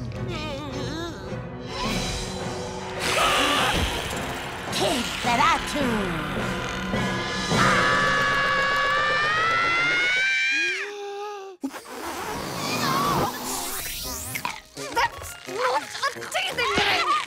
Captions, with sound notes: - [hissing] - [screaming] Kidferatu. [screams] That's not a teething ring.